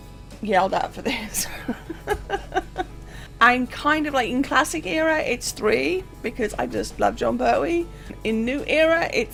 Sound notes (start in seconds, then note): 1.2 laughs